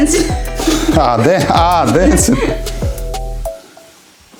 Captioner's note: laughing